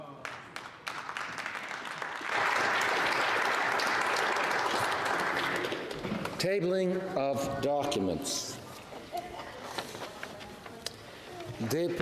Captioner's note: speaking French